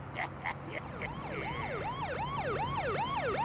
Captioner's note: laughs maliciously; police siren wailing